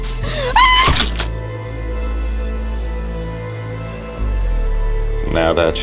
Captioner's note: runaway youth screams; flesh squelches